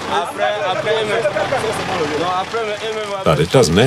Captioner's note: foreign language